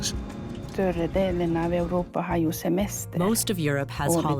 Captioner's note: speaking foreign language